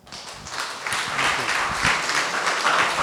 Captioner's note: applause